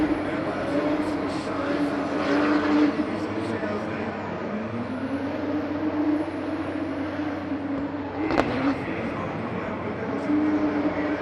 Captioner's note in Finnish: moottorin huminaa